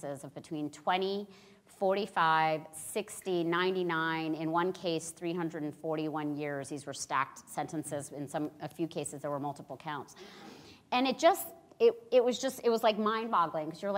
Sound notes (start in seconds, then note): none